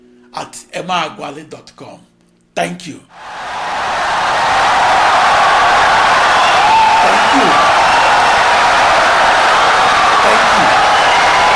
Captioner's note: wild applause and cheering for 17 seconds